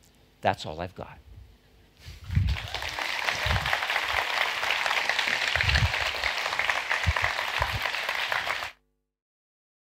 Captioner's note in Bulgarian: Аплодисменти